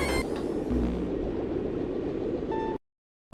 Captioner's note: farts out pink smoke